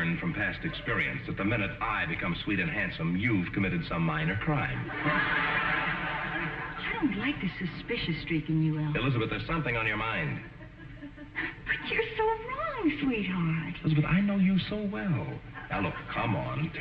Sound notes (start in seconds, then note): 4.8 audience laughing